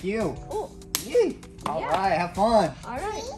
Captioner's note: hands clap